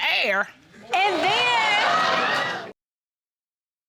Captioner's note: audience laughs